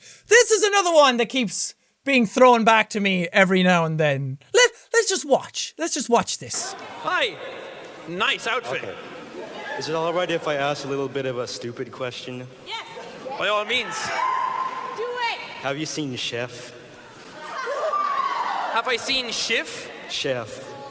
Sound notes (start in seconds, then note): 13.9 person screaming 'Yes'